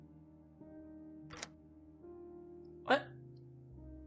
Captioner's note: lock Clicks